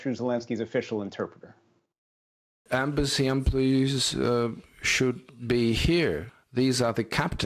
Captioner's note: through translator